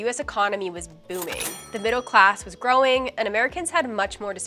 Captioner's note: cash register dinging